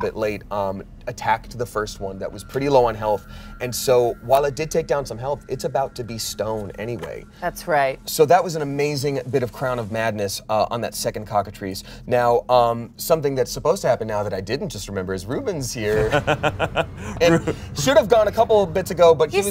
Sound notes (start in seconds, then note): 16.0 laughs